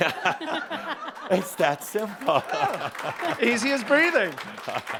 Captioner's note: laughter and some applause